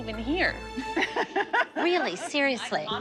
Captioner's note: laughter